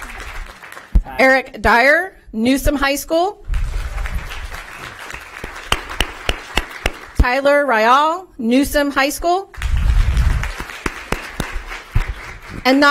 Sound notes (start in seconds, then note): 0.0 applause